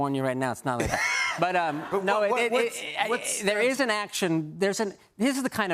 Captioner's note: laughter